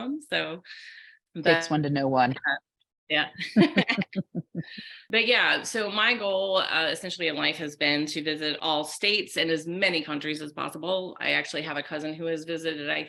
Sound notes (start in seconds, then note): 3.3 laughing